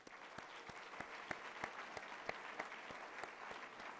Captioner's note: applause